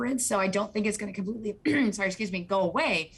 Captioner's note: clears throat